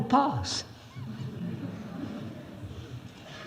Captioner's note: laughs